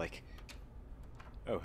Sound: door opens

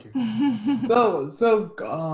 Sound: chuckles

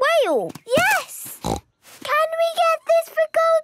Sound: snorts

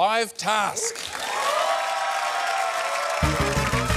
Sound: cheering, applause

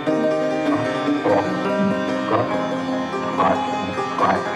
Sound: clattering; muffled barking

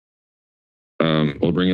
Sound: silence

